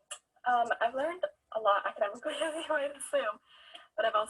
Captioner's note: laughs